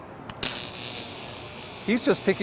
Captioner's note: electricity crackles